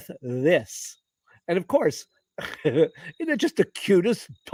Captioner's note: laughter